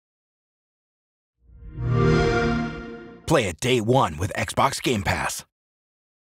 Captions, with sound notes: [XBOX SOUND] Play it day one with Xbox Game Pass